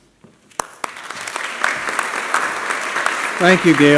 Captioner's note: applause